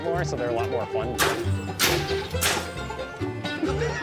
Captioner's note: cannon firing; laughter